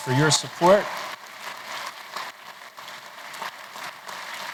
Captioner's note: applause